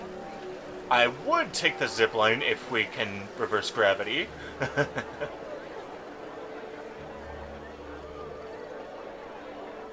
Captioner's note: laughs